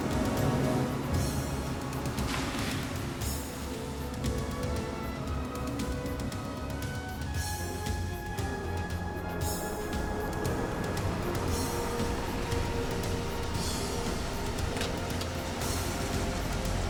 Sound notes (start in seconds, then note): 2.2 water splashing; 10.6 van rumbling